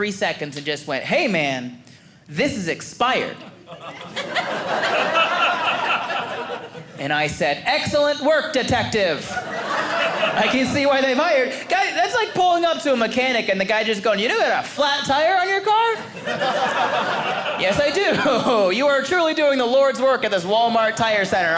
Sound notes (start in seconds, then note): 3.4 audience laughing